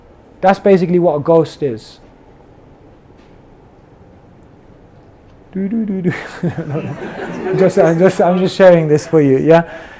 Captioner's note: laughter